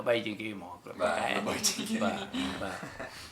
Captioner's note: laughs